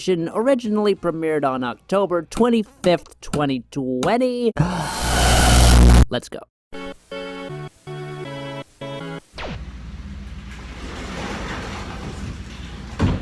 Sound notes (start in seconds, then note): 4.6 deep inhale + audio distortion; 9.5 background noise, closet door opens and thuds